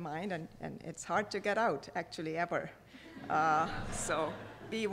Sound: audience laughing

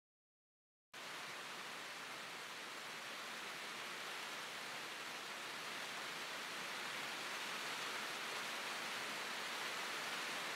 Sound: sound of rain

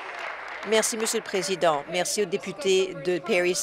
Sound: applause

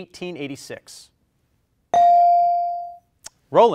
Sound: bell rings

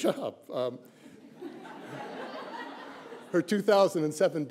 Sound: laughter

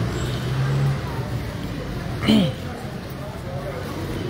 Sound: clearing throat

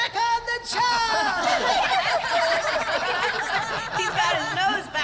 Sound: laughter

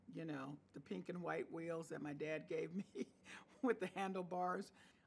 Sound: chuckles

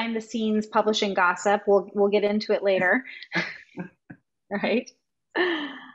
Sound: laughing

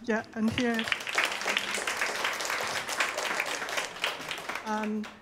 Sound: audience applauding

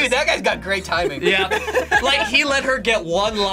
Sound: both laugh

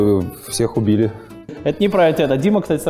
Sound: voice-over

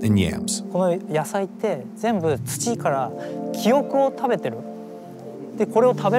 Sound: speaking in Japanese

